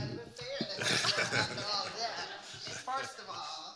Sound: audience and panelists laughing

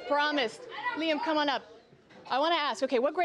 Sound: cheering

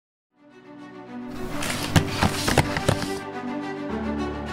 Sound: footsteps walking away

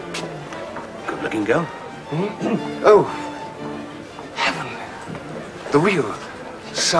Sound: clears throat

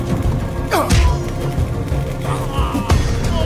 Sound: henchman yells; kick thuds; tense music continues

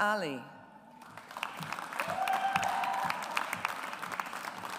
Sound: audience applauds

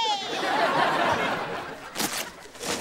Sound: laughing

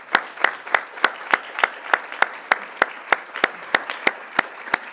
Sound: applause

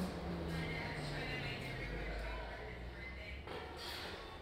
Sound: shop chatter

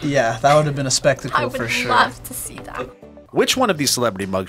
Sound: laughs

